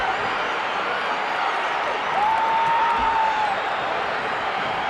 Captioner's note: audience cheering